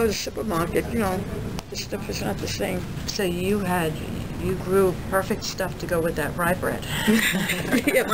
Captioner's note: both laugh